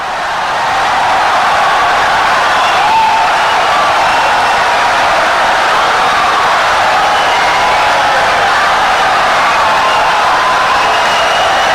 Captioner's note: wild applause and cheering for 17 seconds